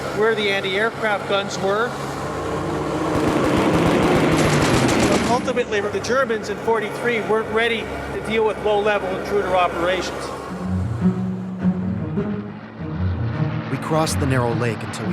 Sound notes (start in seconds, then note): 3.0 guns firing; 3.2 plane engine roaring; 9.6 buoyant music